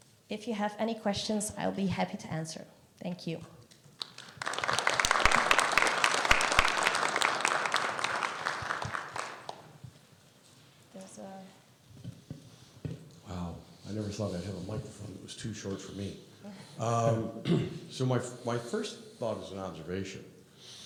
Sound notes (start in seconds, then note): 4.0 audience applauding